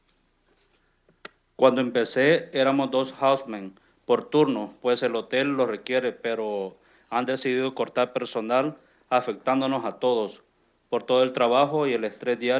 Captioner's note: speaking in Spanish